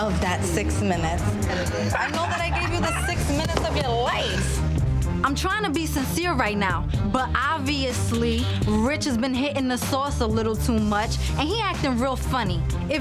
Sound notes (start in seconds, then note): 1.6 laughing